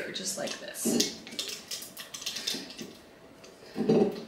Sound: tape crackles

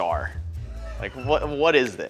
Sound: audience laughs

